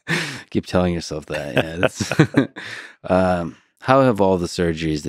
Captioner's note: laughs